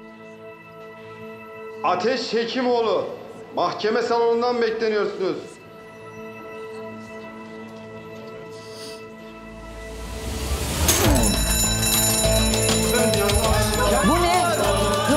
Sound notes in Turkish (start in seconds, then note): 10.4 Yangın alarmı çalıyor